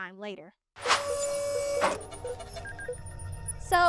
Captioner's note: robotic arm whirring